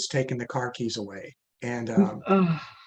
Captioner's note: sighs sympathetically